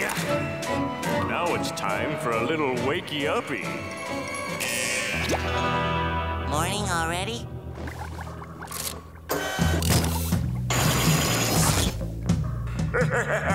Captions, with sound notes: Now it's time for a little wakey uppy. [beeping] Morning already?